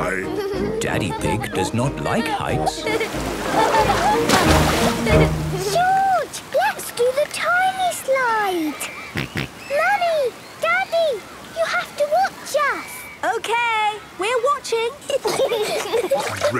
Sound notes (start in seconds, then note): 2.7 laughing; 9.1 George snorts; 15.0 giggling